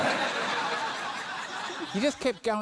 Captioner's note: laughter